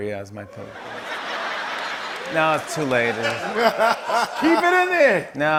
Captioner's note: laugh track